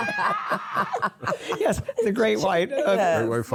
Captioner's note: laughter